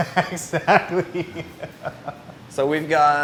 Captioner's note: laughs